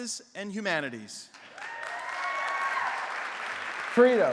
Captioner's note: applause